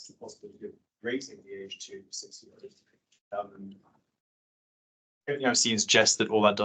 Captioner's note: audio cuts out